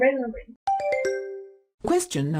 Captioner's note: question ding